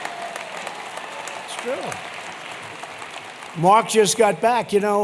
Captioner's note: laughter and applause